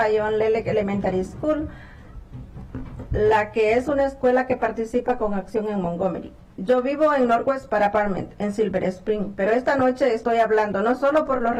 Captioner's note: speaking spanish